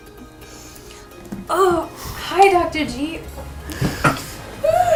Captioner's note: yawns